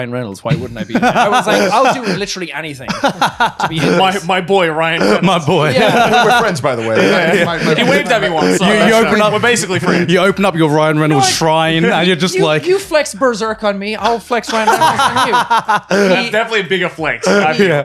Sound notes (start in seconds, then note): 14.4 laughing